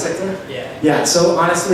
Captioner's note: voiceover